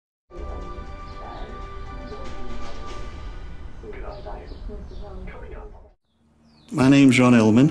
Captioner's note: sound of television in background